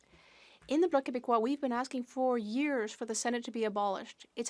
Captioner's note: speaking French